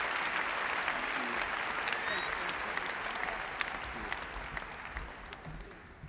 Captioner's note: applause